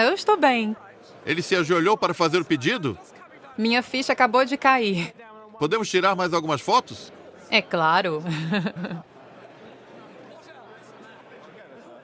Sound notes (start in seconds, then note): 8.1 crowd chatter